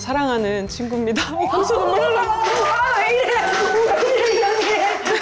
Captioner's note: crying